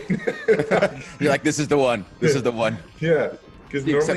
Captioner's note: laugh